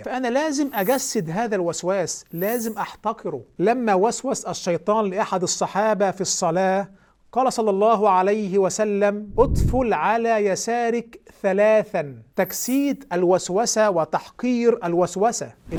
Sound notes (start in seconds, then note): 9.8 dryly